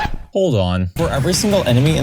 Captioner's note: record scratch